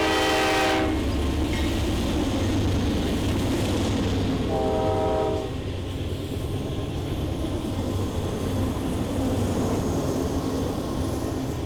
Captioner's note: horn